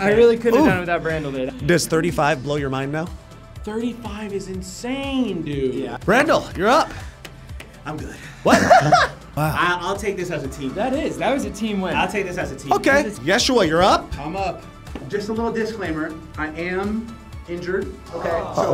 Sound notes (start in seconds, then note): 8.4 laughing